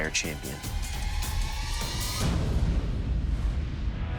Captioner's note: dramatic sound effect